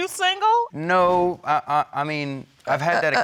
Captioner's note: stammering